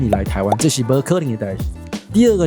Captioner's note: taiwanese dialect